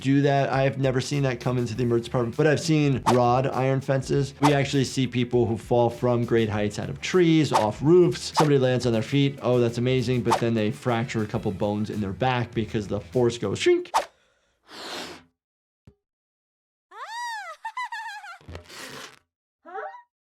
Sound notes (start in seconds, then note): 17.0 Cub laughs